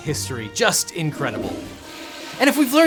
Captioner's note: toilet flushes